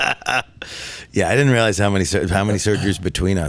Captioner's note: laughing